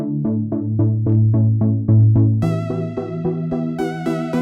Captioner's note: none